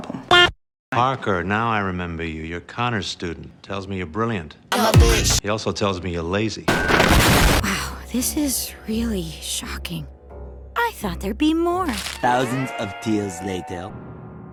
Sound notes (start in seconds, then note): 6.7 explosion